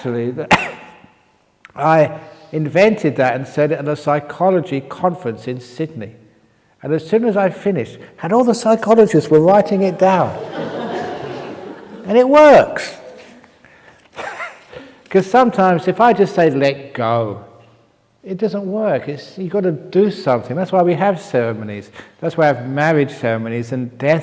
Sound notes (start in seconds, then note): 9.7 laughs; 14.0 chuckle